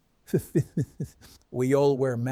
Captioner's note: Man in White laughing